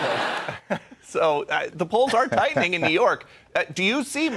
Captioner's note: laughter